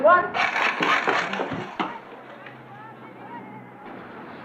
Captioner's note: gun rattles